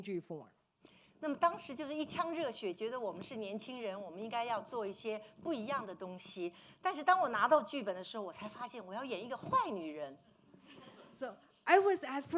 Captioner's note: speaking Mandarin